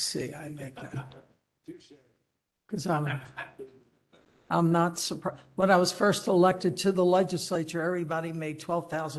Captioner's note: laughter